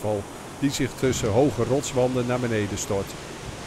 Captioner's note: voiceover